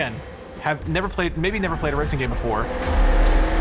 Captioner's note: engines roaring